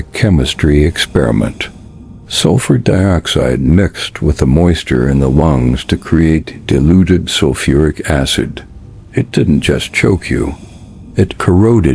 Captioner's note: sarcastic Commentary